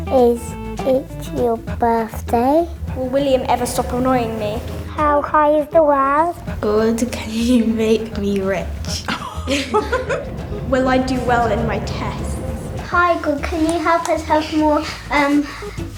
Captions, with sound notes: is it your birthday? Will William ever stop annoying me? How high is the world? God, can you make me rich? (they giggle) Will I do well in my tests? Hi, God, can you help us have more